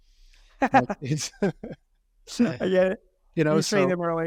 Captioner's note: both chuckling